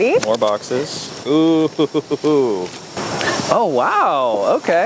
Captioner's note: laughs